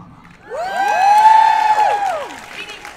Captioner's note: cheers and applause